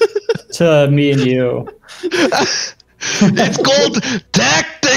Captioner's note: Hurk yels